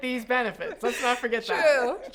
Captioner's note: chuckles